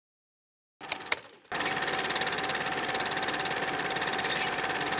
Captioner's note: mechanical noise